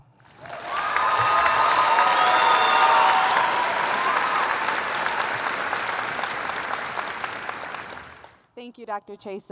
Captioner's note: applause